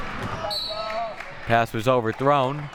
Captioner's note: whistle blowing